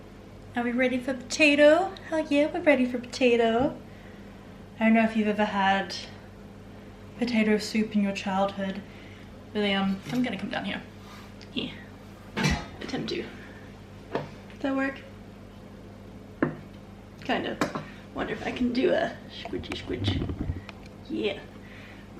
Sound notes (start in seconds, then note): 12.6 metal clatter; 16.2 knive tap